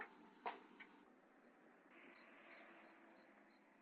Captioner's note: crickets chirping